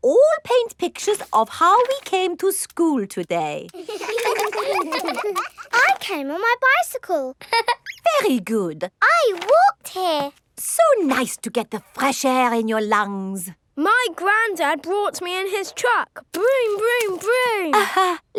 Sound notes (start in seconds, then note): 3.8 all laughing; 7.5 laughs